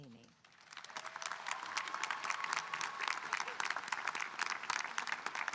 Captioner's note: audience applauding and cheering